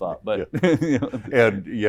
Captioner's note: chuckles